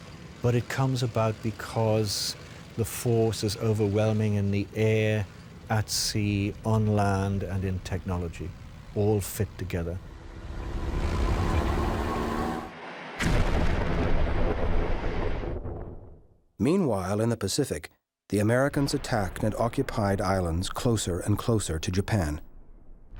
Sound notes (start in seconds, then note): 10.9 engines rumbling; 13.1 explosion booms